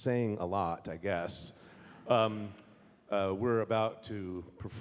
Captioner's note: audience laughing